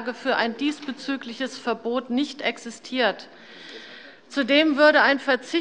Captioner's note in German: none